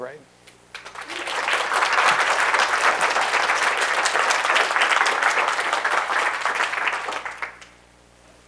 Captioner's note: applause